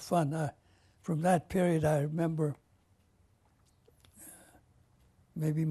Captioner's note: pauses for 3 seconds